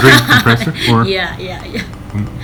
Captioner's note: laughing